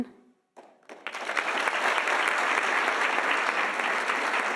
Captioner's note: audience applauding